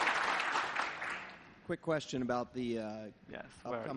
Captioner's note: applause